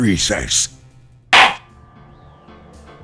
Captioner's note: gavel slams!